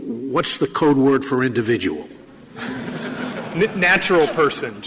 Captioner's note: laughter